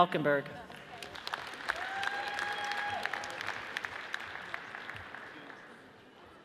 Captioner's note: audience cheers and applauds